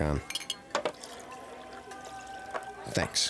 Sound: glasses tinkling, liquids pouring

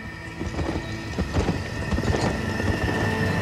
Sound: horses galloping

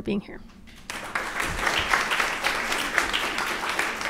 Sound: applause

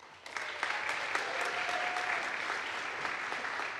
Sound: audience applauds

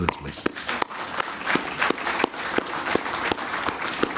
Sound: applause

